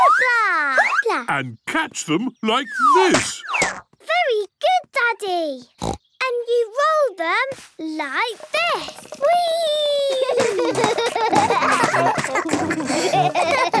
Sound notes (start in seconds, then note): 5.7 snorts; 10.1 both laugh